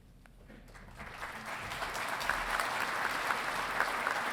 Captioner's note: audience applauding